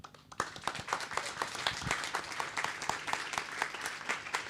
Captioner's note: audience clapping